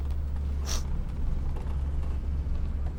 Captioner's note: sniffs